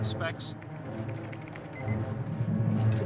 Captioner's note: alarm